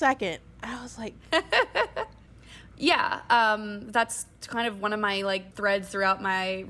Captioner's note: laughing